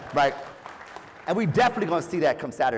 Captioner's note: applause